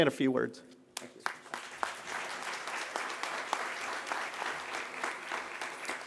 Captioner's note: applause